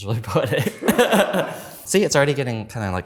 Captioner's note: laughing